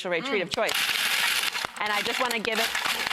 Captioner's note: food processor buzzing